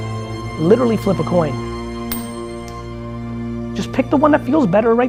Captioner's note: coin dropping